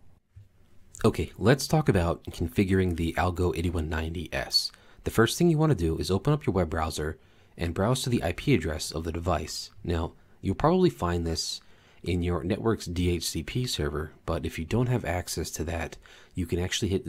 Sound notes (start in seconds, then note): none